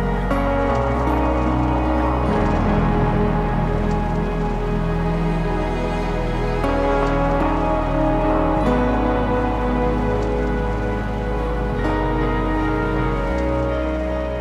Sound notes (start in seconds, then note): none